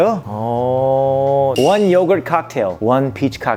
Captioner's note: pure American accent